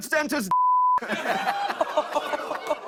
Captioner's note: laughter